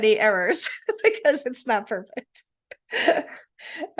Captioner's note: laughing